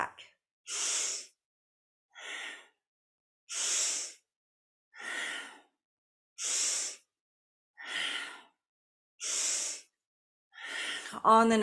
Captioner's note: breathes